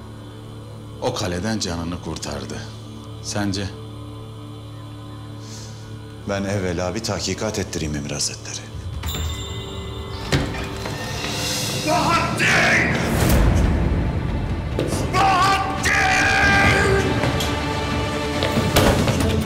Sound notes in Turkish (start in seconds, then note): 10.1 Kapı açılma sesi; 18.4 Müzik - Gerilim